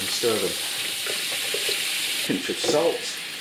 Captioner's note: sizzlin